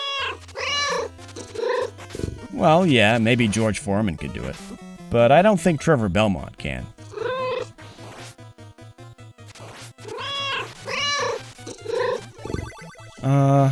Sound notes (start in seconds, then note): 0.0 meow; 10.0 meow